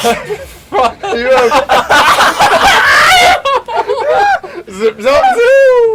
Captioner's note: all of them except laugh